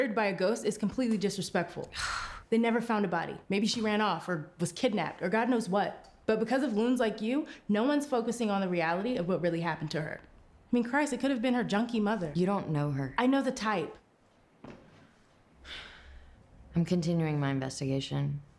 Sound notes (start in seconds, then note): 2.1 Claire scoffs; 15.6 sighs